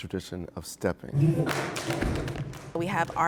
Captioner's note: stomping and clapping